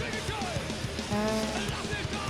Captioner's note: exclaims